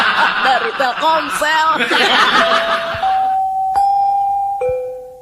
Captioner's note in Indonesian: tertawa